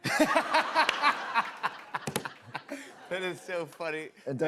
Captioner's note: laughter